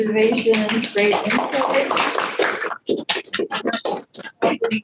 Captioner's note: group applauds